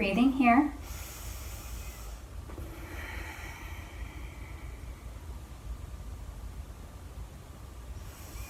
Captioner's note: breathing